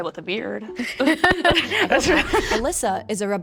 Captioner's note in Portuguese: risos